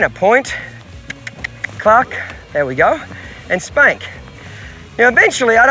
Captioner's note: mouth clicking